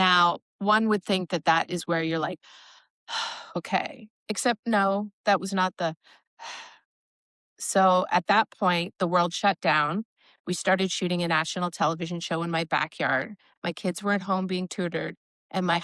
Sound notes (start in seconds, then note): 5.8 breathes meditatively